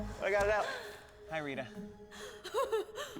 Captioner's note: giggles